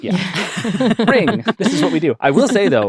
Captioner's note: laughing